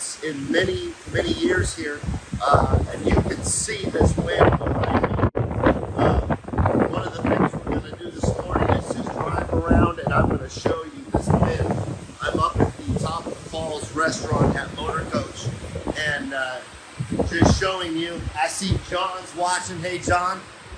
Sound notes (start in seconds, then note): 4.9 wind rustling